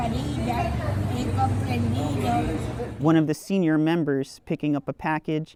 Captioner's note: speaking Spanish